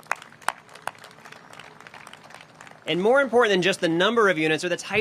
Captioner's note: applause